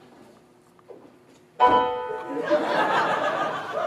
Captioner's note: victorious chime